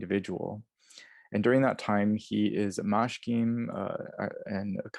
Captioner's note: sumerian